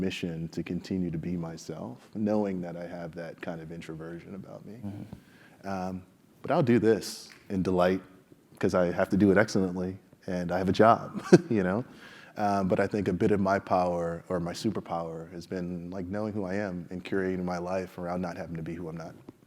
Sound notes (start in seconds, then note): 11.3 laugh